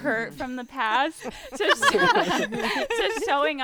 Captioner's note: group laughing